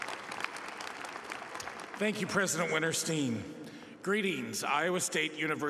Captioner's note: applause